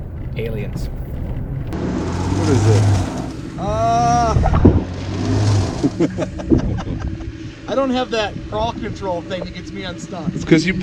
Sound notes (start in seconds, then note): 1.9 car engine running; 5.8 laughing